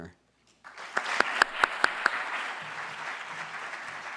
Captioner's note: audience applauding